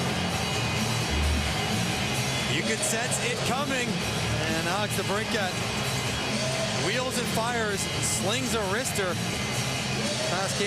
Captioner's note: cheering and Applause